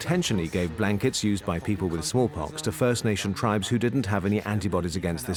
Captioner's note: in German; dubbed in English